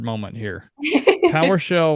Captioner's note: laughs